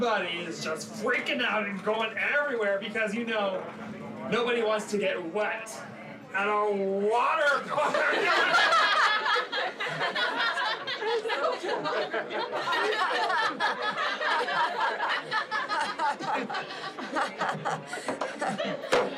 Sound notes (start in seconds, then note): 8.3 all laughing; 12.4 Allison laughing